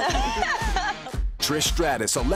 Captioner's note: laughter